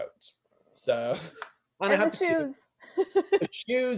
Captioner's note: laughs